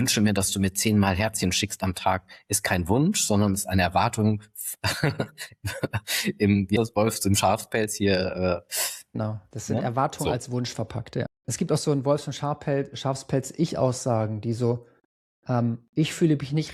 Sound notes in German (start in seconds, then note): 4.7 gelächter